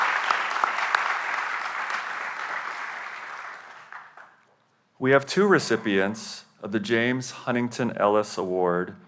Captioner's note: applause